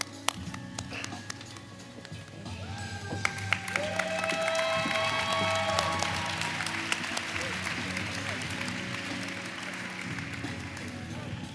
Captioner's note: applause